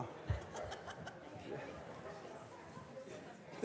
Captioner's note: students laughing